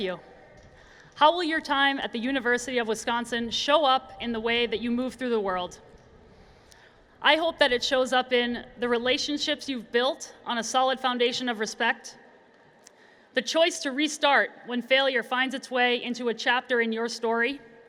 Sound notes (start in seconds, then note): none